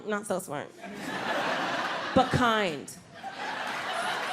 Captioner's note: audience laughs